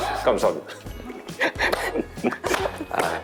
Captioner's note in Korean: 위로의 박수 짝짝